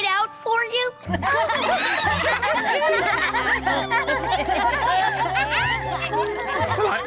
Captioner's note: laughter